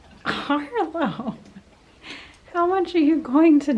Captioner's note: laughing